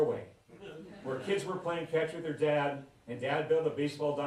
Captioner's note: laughter